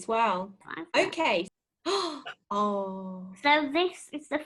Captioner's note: gasps